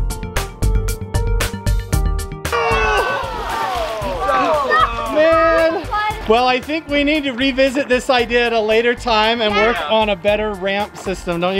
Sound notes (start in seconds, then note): 2.5 group moaning